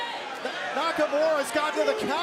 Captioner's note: crowd chatter